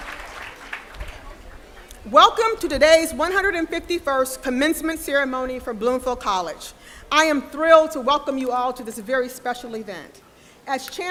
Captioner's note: applause